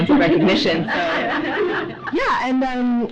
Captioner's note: audience laughs